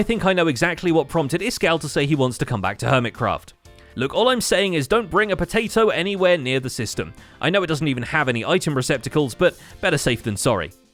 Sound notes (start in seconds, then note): none